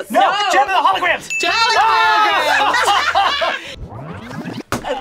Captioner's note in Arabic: هتاف